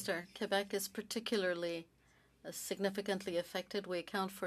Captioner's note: speaking French